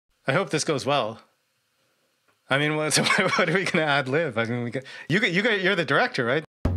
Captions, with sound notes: I hope this goes well. I mean, (laughs) what, are we gonna ad lib? I mean, you're the director, right?